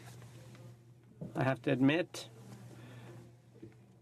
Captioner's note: speaking in french